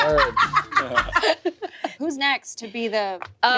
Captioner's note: everyone laughs